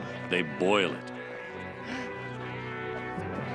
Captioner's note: gasp